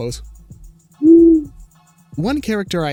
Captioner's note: owl hoots